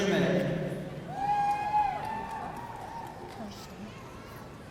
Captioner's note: audience cheering